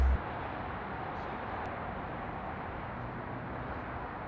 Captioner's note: traffic passes